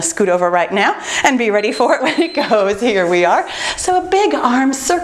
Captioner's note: timer beeps